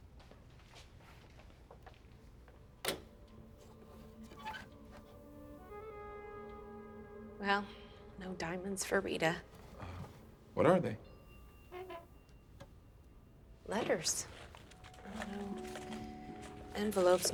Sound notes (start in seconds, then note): 2.8 lock clicks; 4.2 lid creaks